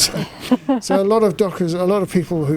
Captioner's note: laughs